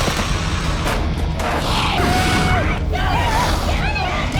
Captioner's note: screaming continues